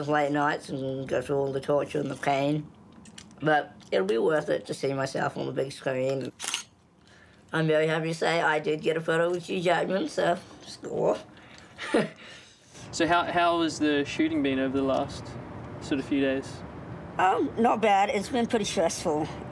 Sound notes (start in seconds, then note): 6.2 camera shutter clicks; 11.7 chuckles